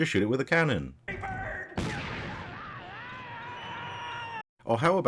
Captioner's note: pirate yells; cannon fires